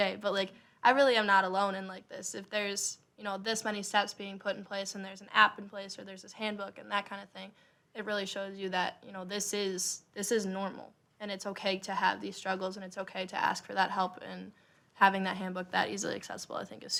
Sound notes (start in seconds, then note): none